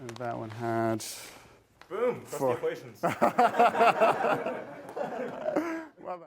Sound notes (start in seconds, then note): 3.0 laughter